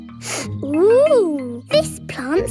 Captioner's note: sniffs